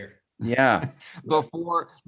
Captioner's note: laughs